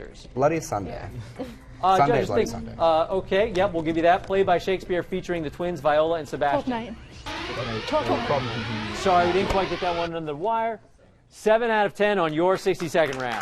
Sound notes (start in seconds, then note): 7.2 alarm blaring